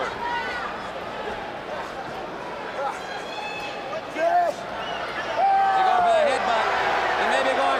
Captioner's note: crowd chatter